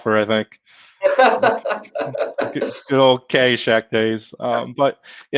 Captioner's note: laughter